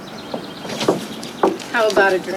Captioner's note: birds chirping